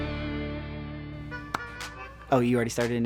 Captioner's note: upbeat music; clapping